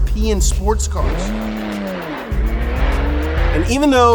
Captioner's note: engines rev